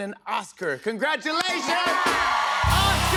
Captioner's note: cheers and applause